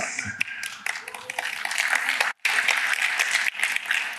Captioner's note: applause